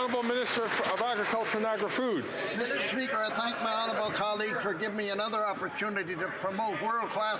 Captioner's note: some Applause